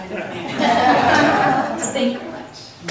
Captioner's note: laughs